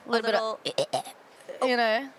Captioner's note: is imitating the sounds of creatures